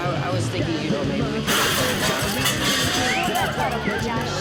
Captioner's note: shattering